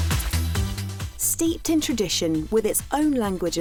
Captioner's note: electronic dance music; voiceover